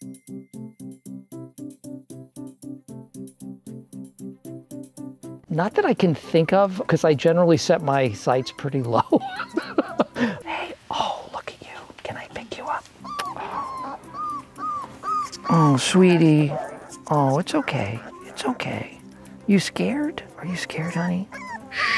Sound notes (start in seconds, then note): 0.1 light, cheery music; 8.4 laughs; 12.9 puppy whimpers; 21.2 puppy whimpers